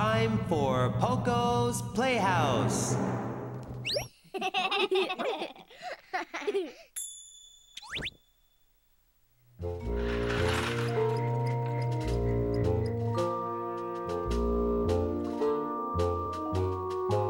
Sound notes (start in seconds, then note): 4.2 giggles